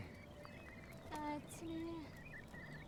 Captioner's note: mutters